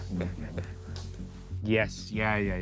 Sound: Vik whispering

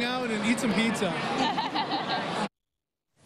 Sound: laughing

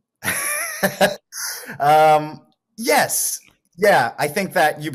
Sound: laughs

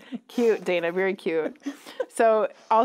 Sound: laughing

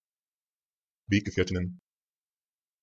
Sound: fast Pronunciation

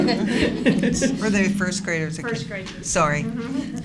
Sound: laughter

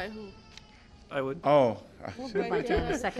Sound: laughter

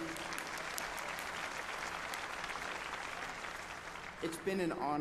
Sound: applause

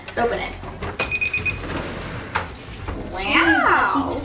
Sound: oven beeping

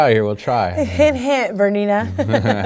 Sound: laughing

